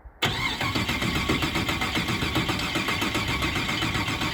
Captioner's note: car starts